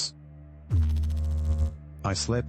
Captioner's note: electrical noise